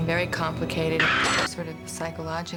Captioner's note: screams